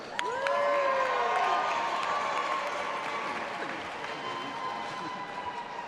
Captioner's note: audience applauding and cheering